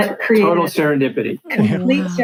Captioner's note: laughs